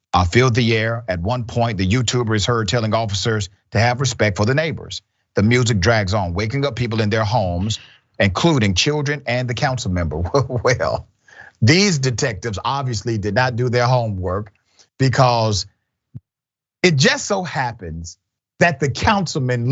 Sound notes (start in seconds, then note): 9.9 laugh